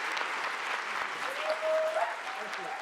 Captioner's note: audience cheering